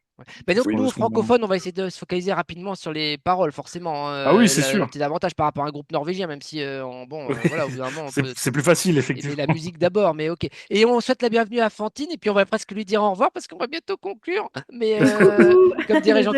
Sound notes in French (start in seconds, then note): 7.3 rires; 15.0 rires